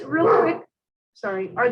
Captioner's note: dog barking